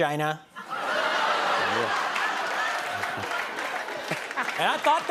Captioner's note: laughter